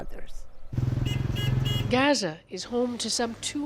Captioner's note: car honks